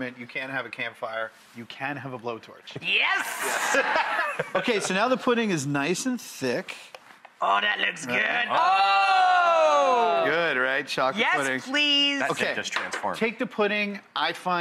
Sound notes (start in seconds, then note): 3.1 laughing